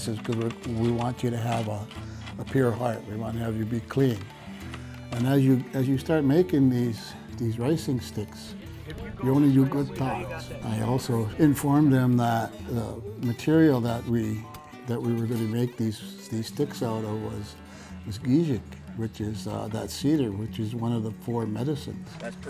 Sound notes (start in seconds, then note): 8.9 instructor chattering; 17.5 speaks in foreign language